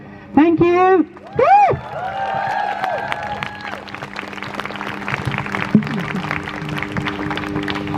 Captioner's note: crowd cheers